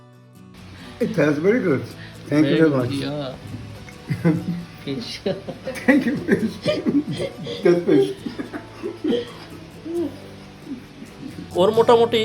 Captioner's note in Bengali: সশব্দ হাসি